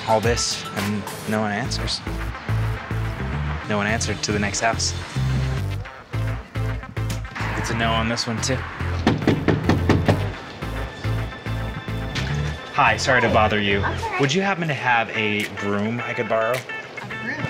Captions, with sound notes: We set up all this and no one answers. No one answered, to the next house. It's a no on this one too. [knocks] Hi, sorry to bother you. That's alright. Would you happen to have a broom I could borrow?